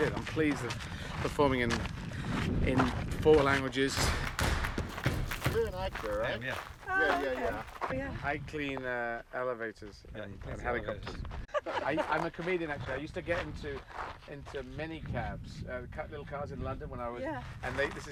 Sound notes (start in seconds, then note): 4.0 echoing percussion; 11.4 laughing